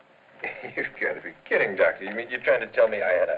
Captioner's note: laughs